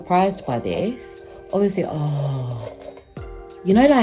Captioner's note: sighs